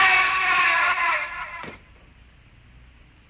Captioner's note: screaming